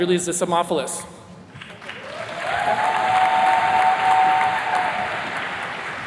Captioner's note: attendees cheers and claps